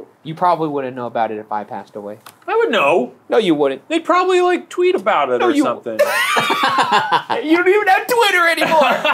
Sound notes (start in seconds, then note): 6.0 laughing